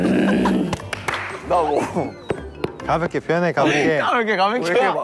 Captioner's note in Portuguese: Rindo alto